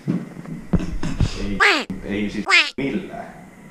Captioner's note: quacking